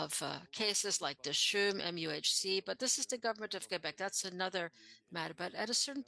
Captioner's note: speaking French